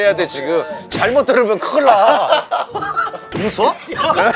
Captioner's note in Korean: 웃음